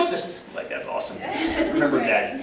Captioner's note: laughter